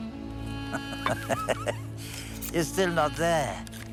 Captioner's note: laughs